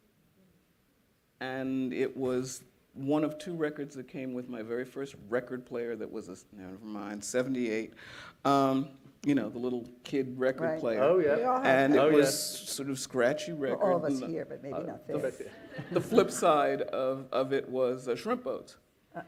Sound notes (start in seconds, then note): 15.4 laughter